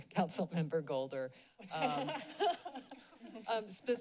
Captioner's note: laughs